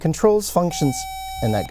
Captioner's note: buzzer